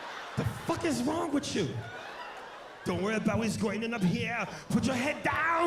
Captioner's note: imitates Schwarzenegger